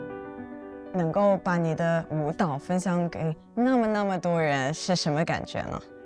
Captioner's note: speaking foreign language